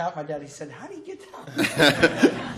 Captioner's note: laughter